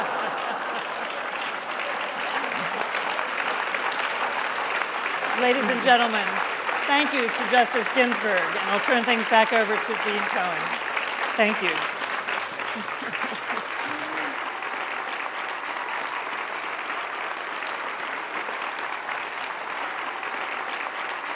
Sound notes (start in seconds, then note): 4.3 cheers and applause